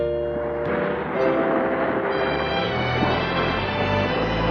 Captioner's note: boat rumbling